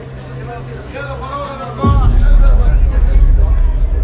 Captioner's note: crowd chattering